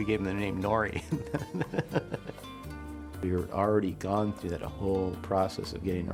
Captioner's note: laughter